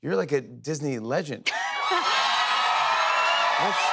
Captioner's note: cheers and applause